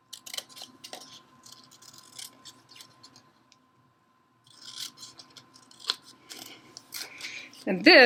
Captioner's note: cutting